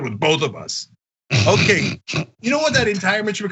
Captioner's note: laugh